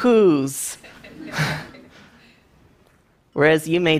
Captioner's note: laughter